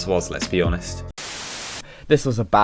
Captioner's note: static Noises